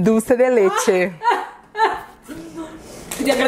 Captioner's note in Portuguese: finge choro